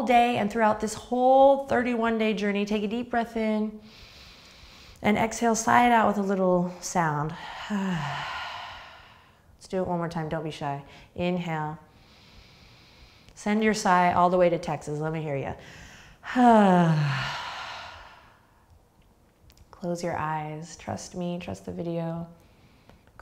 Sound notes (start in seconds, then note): 7.4 sighing breath; 16.2 sighing breath